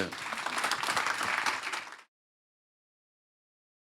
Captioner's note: applause